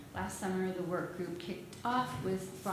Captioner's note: none